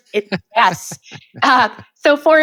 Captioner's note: laughing